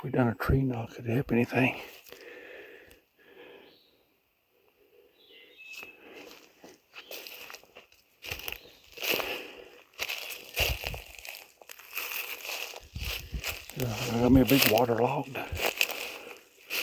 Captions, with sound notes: I wonder if we done a tree knock if it'd help anything? (birds chirping) (leaves crunching) Got us a big, long log.